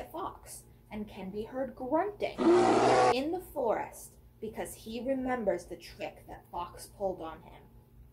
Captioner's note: bear growl